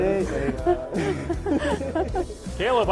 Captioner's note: laughter